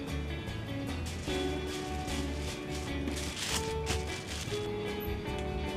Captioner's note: crinkling